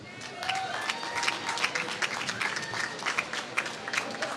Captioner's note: applause